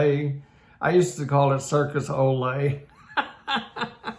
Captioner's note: laughs